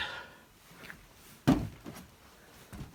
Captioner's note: thump